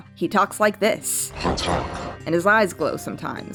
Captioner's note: Ra speaking an alien language in a weird deep voice